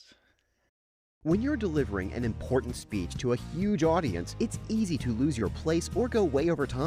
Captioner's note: voiceover